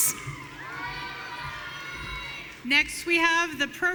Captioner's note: audience cheering